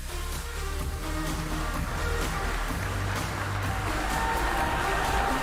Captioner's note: applause